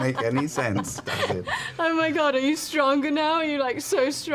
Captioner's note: laughing; laughs